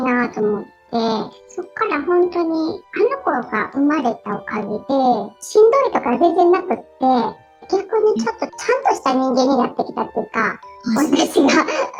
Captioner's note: laughs